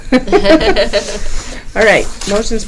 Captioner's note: laughing